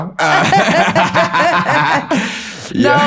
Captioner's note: laughter